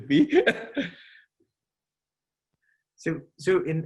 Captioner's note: laughing